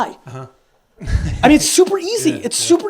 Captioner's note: laughs